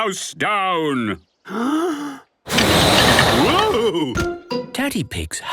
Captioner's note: inhaling deeply; blowing